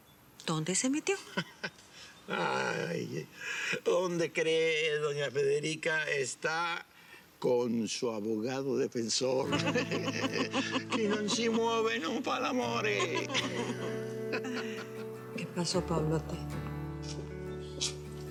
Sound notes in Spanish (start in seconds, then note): 1.2 Risas; 9.4 Risas; 10.7 Habla en idioma extranjero; 12.8 Risas